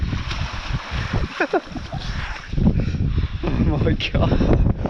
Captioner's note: chuckles